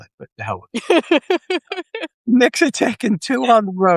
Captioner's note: laughing